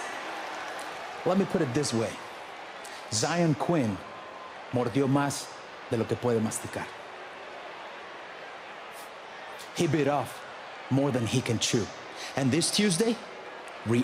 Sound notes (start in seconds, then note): 4.1 spanish language